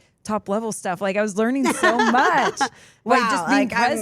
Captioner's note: Steph laughs